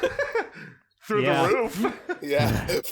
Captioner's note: 3W laughter break; laughs